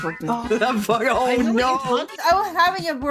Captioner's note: laughing